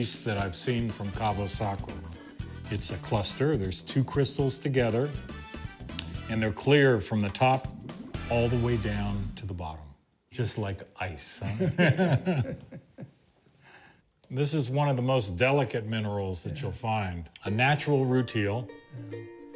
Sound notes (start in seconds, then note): 11.4 laughter